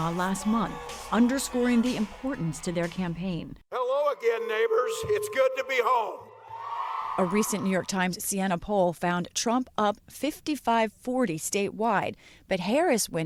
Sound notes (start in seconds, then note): 7.1 cheering